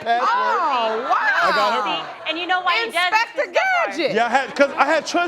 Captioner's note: exclaiming